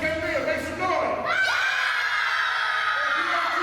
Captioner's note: children scream and shout